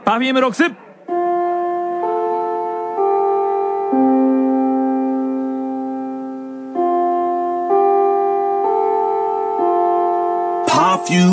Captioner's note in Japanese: チャイム